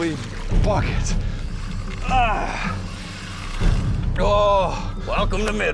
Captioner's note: grunts